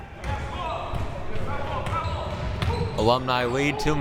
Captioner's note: ball pounding